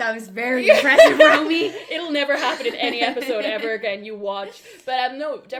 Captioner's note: laughs